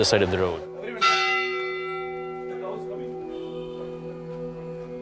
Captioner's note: bell ringing